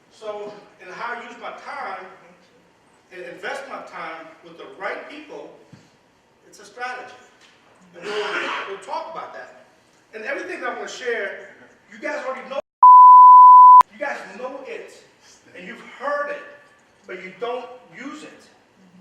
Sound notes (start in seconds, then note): 12.8 beep